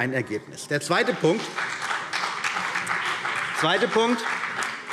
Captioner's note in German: Beifall CDU und BÜNDNIS 90/DIE GRÜNEN